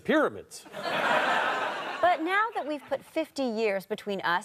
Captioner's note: audience laughter